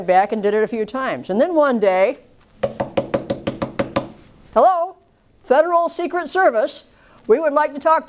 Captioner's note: knocking